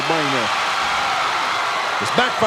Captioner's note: audience cheering